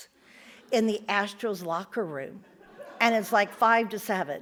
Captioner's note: audience laughs